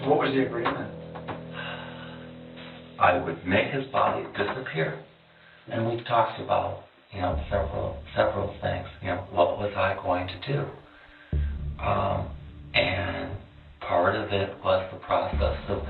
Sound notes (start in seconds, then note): 1.5 sighs